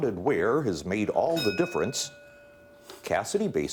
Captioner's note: bell ringing